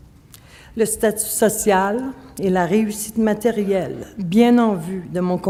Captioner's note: speaking French